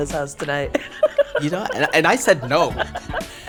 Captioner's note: laughs